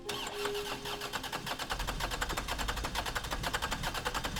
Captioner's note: car engine cranking